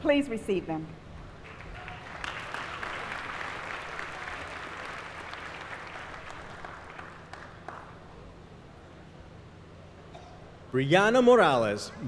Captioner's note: applause